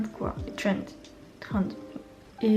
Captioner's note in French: accent français